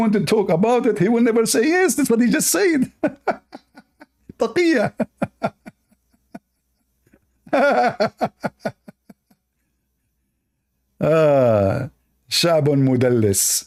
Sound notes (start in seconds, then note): 2.8 Ketawa